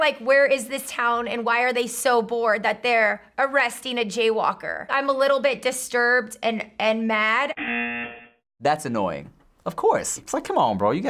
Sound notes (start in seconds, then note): 7.5 buzzer